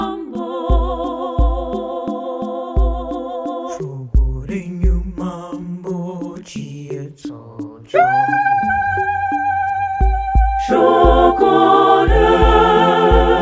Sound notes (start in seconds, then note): 10.1 ululating